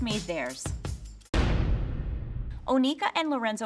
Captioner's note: banging